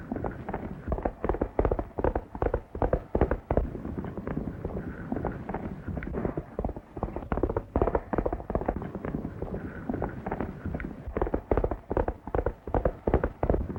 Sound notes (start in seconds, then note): none